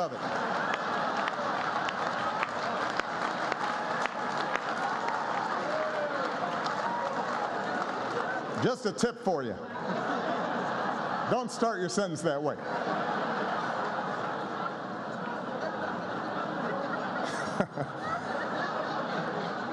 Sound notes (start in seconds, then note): 1.6 laughter and applause